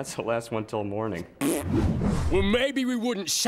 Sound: blowing raspberry

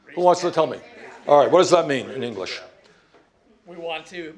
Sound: crowd chatter

